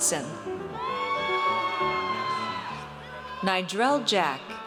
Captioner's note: audience cheers